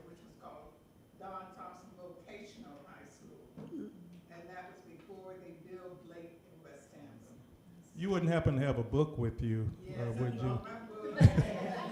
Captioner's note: off microphone